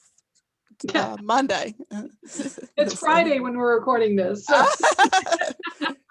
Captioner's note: laughter